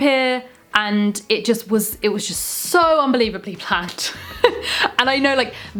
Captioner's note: laughs